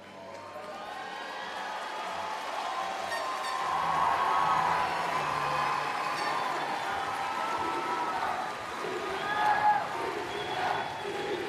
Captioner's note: cheering and Applause